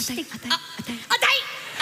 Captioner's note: whisper